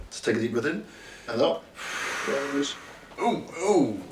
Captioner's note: Tejay exhales